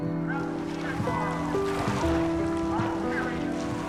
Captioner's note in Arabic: هتاف